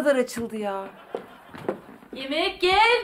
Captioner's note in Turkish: Gülme efekti